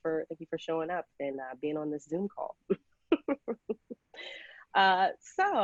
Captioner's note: laughs